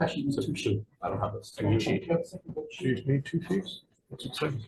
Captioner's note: group chattering